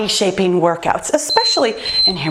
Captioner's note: timer beeps